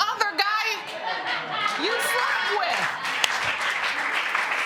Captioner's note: applause